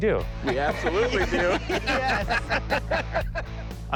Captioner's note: laughter